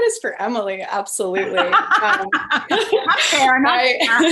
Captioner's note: laughing